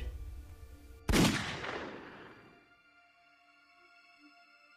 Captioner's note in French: son de pistolet qui tire